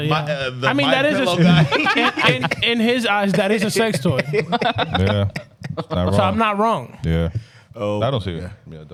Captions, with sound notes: The white pillow guy. In his eyes, that is a sex toy. (Laughing) Yeah, it's not wrong. So I'm not wrong. Yeah. Oh. I don't see it.